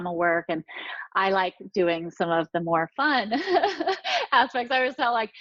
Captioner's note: laughing